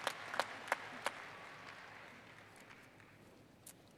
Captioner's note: applause